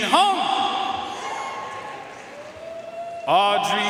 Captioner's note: audience cheering and applauding